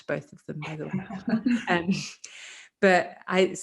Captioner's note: laughing